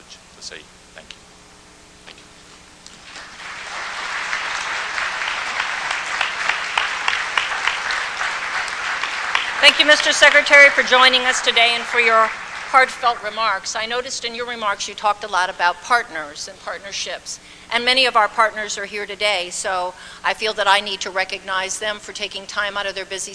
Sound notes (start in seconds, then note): 6.5 applause